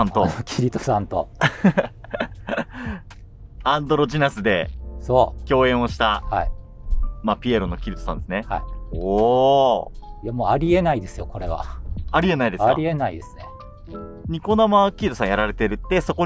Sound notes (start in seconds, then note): 1.4 laughing